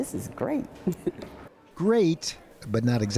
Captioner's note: laughter